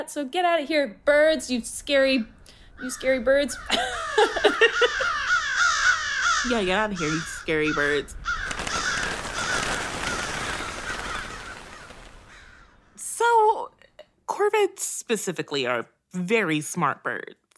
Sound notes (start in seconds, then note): 3.5 flock of American Crows cawing; 8.6 flock takes off with loud wingbeats, fades into distance